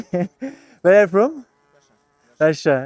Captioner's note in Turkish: kahkaha